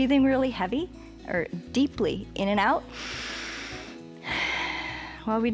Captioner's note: inhales and exhales